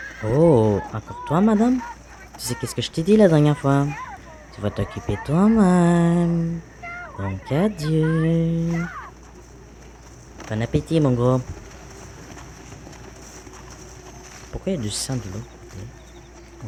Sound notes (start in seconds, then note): 12.3 zombie eating; 15.3 creepy noises and wind